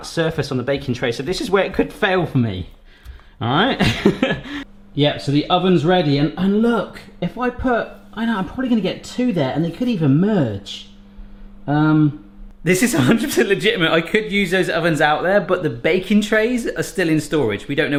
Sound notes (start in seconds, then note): 3.8 laughs